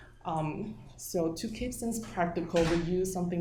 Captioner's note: door slamming